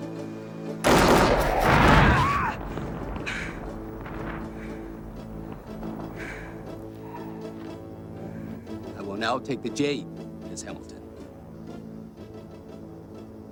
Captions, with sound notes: (rocket swishing) (explosion booming) (Donna screaming) I will now take the jade, Miss Hamilton.